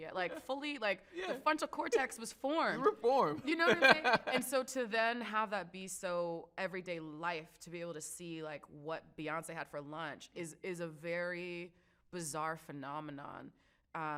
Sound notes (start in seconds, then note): 3.4 laughs